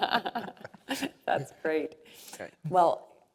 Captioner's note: laugh